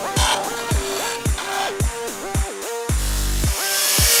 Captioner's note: drilling; sawing